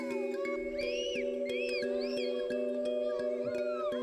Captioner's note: children screaming